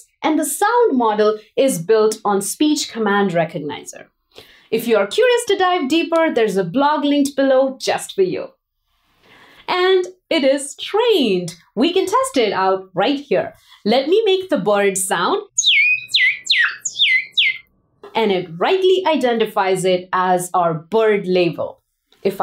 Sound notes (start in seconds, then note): 15.5 chirping